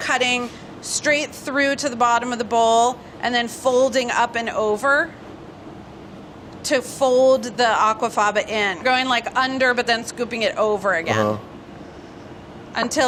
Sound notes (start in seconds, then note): none